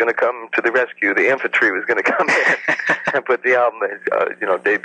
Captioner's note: laughs